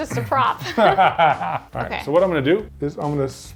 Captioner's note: laughing